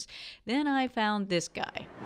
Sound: farmers market ambient noise

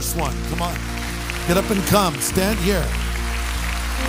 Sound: audience applause

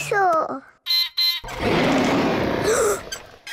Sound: beeps and roars; gasps and cries

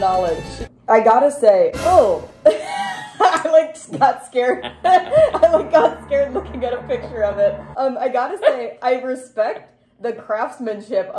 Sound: snazzy music; shock sound

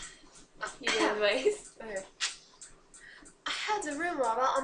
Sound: chatter, chatter

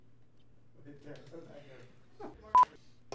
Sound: talking among crew

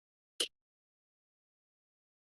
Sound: silence; click; silence

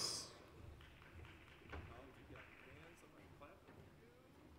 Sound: applause

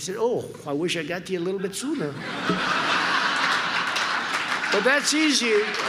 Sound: laughter

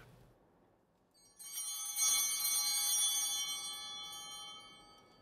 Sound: bell ringing

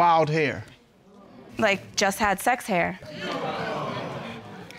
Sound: audience exclaiming

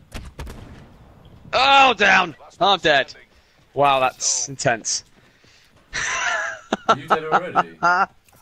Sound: laughs

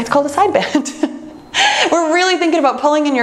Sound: laughs

